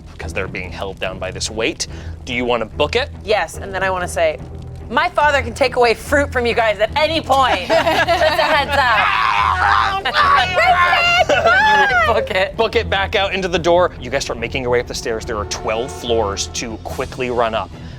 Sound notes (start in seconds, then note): 8.4 grumbles